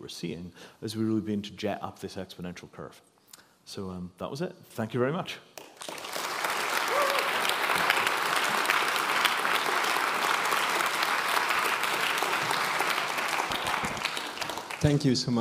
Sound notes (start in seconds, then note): 5.5 applause